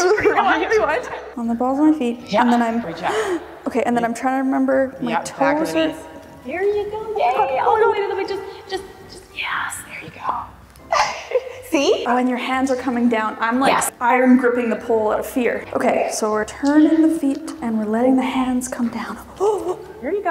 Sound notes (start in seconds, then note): 0.2 laughing; 3.1 gasping; 10.9 laughing